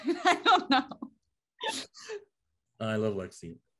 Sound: woman laughing

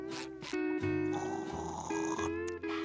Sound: slurps

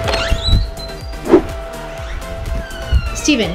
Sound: door creaks

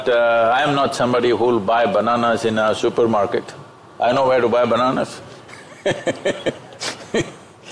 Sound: laughs

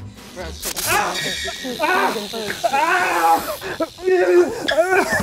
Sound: screams

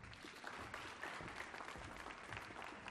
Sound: applause

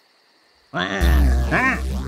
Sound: zapping noises

